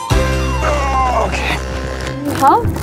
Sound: grunting

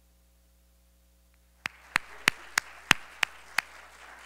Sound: crowd applauding

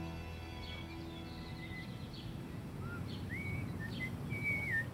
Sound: Bob whistling

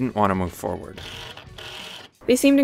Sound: power tool drilling

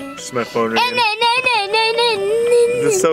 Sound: mimicking ringtone

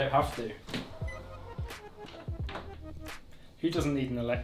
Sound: toilet beeps

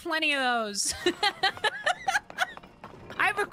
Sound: laughter

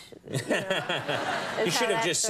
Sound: audience laughing

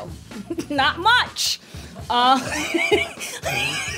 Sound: laughing

